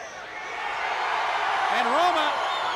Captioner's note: crowd cheering